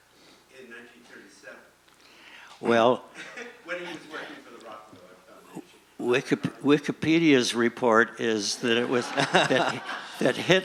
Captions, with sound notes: - Well... - [Voiceover] When he was working for the Rockefellers. - Wikipedia's report is that it was... (laughing)